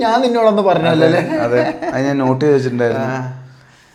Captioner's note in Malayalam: പൊട്ടിച്ചിരി